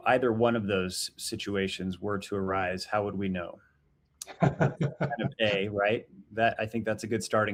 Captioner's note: laughing